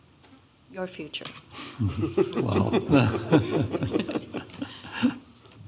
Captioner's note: laughter